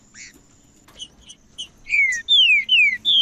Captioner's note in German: trinca ferro cantando